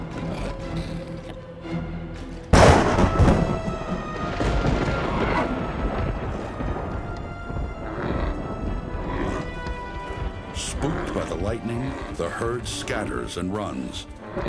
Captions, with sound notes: [thunder] Spooked by the lightning, the herd scatters and runs.